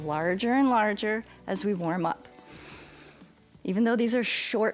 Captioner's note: inhales